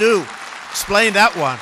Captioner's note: applause